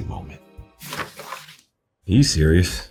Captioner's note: pages shuffling